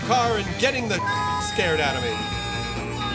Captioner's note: screaming